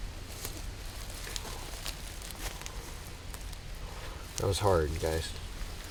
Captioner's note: leaves rustling